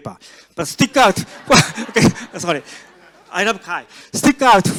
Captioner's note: audience laughs